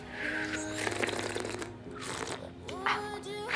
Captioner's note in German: Schlürfen